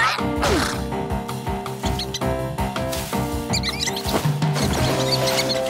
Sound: squeaking

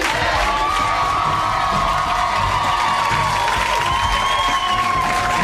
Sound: audience cheers

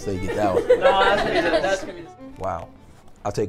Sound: group laughs

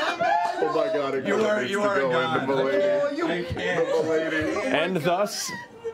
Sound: laughter

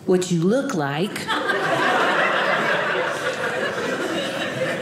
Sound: audience laughing

